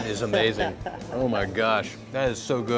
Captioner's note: laughing